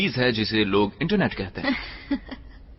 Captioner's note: laughs